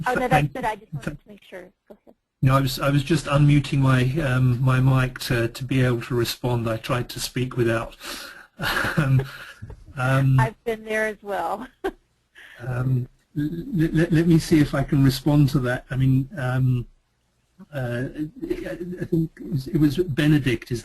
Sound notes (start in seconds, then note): 12.6 chuckle